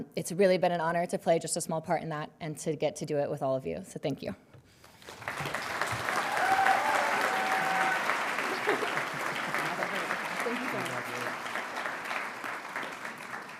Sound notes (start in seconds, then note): 5.0 audience cheering and applauding; 7.3 laughing